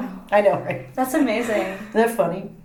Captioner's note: laughing